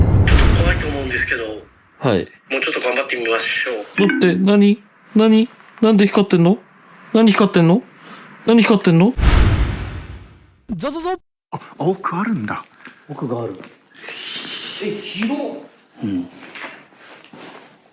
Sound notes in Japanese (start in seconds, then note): 4.0 通話が切れる音